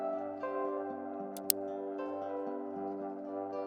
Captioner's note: clicking noise